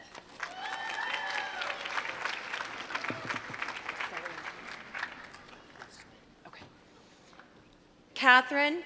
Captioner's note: applause